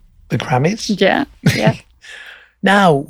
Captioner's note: laughs